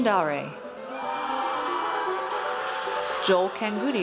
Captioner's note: audience cheers